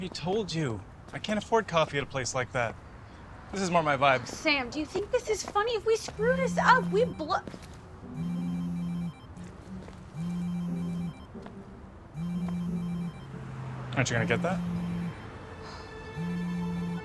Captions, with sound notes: - I already told you, I can't afford coffee at a place like that. This is more my vibe. - Sam, do you think this is funny? If we screw this up we-- (phone ringing) - Aren't you gonna get that? (sighs)